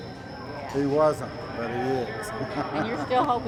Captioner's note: laughs